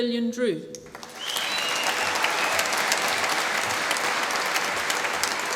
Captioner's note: applause